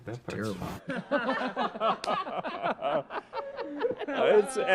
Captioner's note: cast laugh